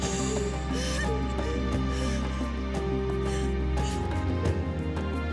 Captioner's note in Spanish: Sollozos